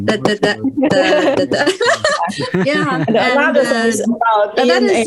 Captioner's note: risas